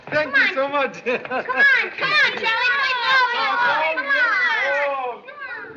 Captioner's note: kids pleading